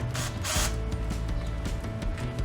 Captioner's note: drill motor sound